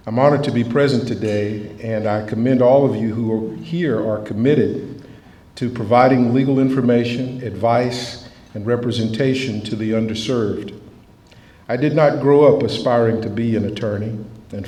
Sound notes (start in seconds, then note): none